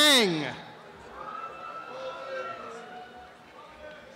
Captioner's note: applause and cheering